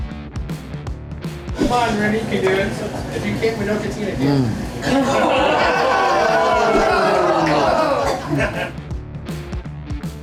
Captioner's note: crowd laughter